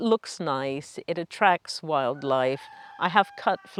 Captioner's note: rooster crowing